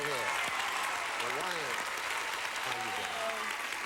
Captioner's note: audience applauding